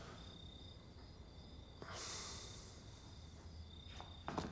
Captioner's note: deep breath